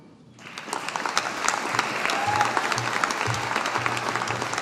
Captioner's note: audience applauding